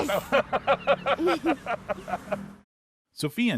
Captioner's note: laughing